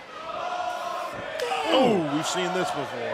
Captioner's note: fans chanting